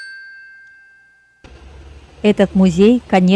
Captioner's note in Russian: колокольчик